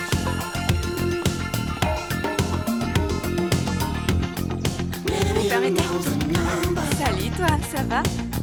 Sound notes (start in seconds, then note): 6.5 barking